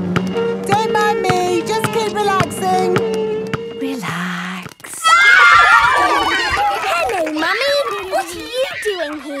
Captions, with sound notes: Don't mind me! Just keep relaxing! - Relax... (kids screaming) (laughter) - Hello, Mummy. What are you doing here?